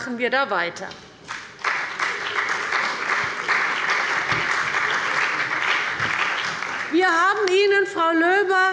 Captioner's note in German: Beifall bei der CDU und dem BÜNDNIS 90/DIE GRÜNEN